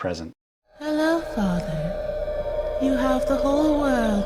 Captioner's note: spooky female voice on TV